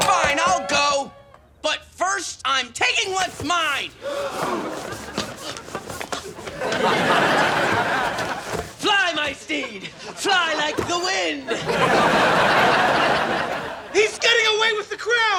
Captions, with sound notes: - Fine, fine I'll go. But first I'm taking what's mine. (gasping) Fly my steed! Fly like the wind! (audience laughing) - He's getting away with the crown!